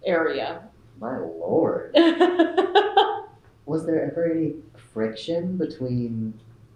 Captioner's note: laughter